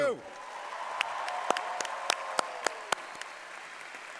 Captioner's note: cheering and applause